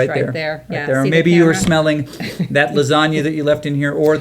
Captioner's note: nose sniffing